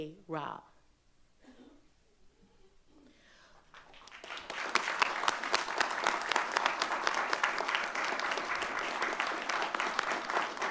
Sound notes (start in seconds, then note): 3.6 audience clapping